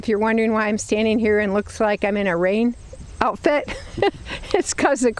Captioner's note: chuckles